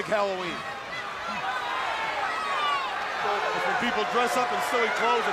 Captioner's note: crowd chatter